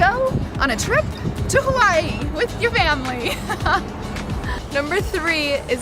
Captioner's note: laughs